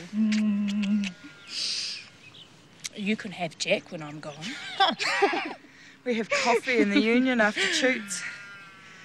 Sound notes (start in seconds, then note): 0.1 kissing; 4.5 giggle